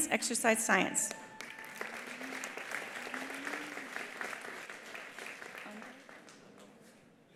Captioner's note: attendees applauding; attendees cheering